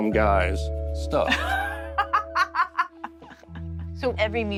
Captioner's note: laughs